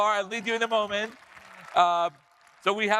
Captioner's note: audience applauding